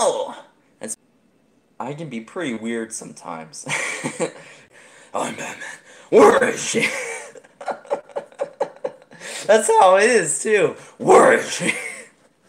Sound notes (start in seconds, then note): 6.2 insert more laughing